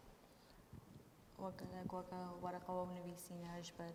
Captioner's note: speaking kurdish